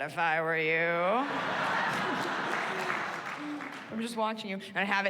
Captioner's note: chuckles